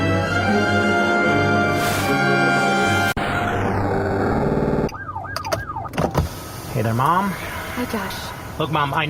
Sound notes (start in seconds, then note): 0.0 transition music; 6.7 police siren sounds